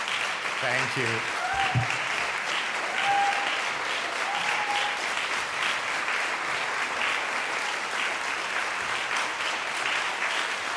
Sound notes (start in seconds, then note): 1.9 audience applauds and cheers